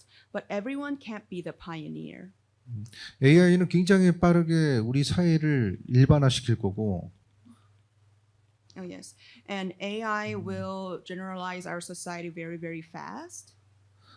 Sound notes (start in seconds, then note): 3.6 speaking korean